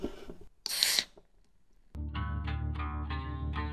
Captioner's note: can opening